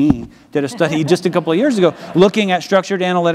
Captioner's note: audience laughs